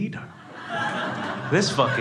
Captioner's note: crowd laughing